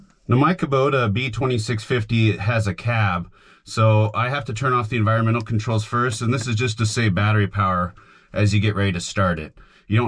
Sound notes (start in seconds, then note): none